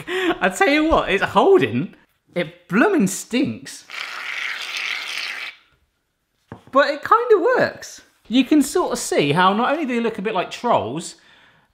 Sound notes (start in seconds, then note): 0.0 guffaw; 3.9 liquid gurgling